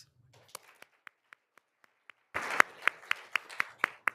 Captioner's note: all applauding